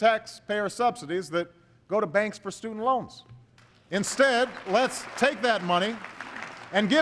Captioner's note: applause